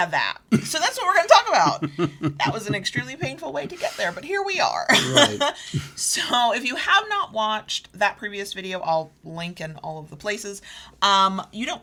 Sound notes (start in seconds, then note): 0.5 laughs